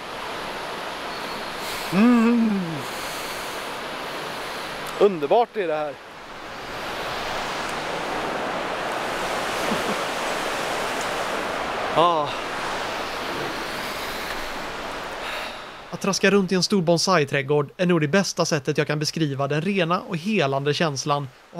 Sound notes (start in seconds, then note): 1.9 appreciation sound